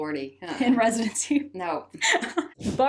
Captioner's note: laughs